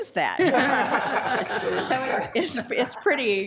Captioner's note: attendees laughing